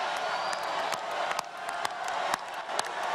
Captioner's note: cheers and applause